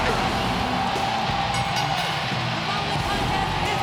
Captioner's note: crowd cheering; bell ringing